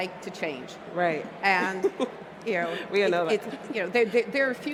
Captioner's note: laughs